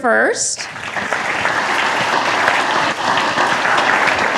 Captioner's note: attendees applaud